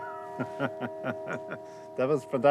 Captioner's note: chuckles